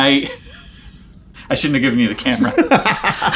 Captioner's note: laughs; John laughs